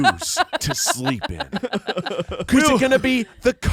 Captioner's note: everyone laughs